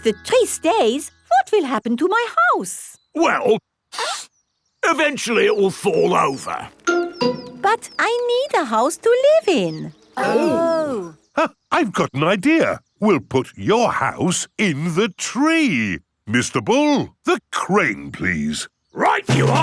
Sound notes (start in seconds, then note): 3.9 sniffs; 12.0 gasps